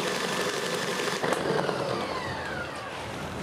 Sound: decreasing whirring

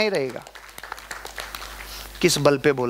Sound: round of applauses

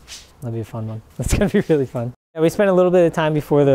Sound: laughs

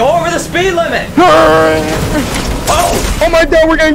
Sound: Jeffy imitating engine noises

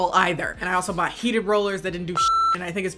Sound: beep

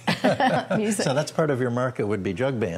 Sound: laughter

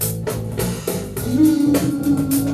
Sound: layer 2: vocal effects

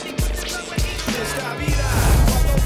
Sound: credits whooshing

